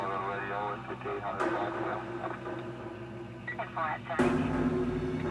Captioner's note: police radio chattering